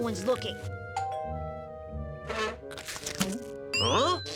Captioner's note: door bell ringing